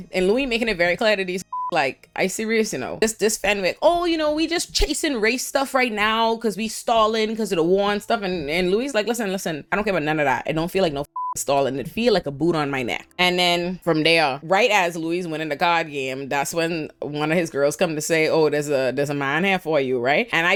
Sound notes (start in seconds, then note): 1.4 beep; 11.0 beep